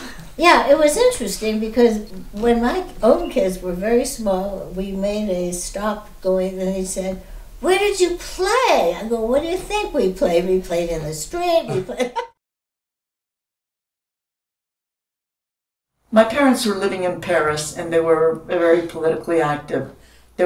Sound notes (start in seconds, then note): 0.0 laughing; 11.5 laughing